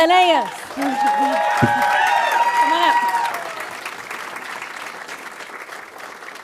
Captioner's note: audience cheering and applauding